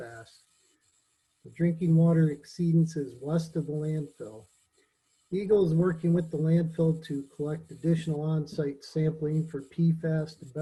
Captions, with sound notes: - Yep, thanks very much, Jim. - Anything else from me? All right, have a good night, everybody. - [laughs] All right, thank you. All right, let's jump into